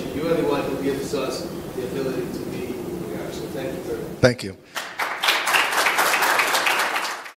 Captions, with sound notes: You are the one who gives us the ability to be here, so thank you very much. - Thank you. (audience applauds)